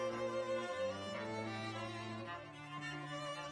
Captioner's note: none